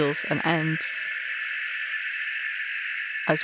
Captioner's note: wobbly screeching tone